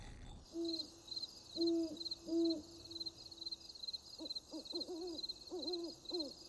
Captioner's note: crickets chirping; owl hooting